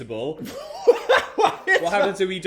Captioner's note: laughs